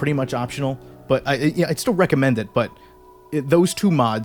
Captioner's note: stammering